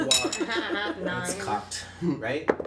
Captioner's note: laughs